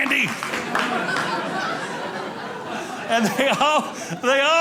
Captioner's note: audience laughing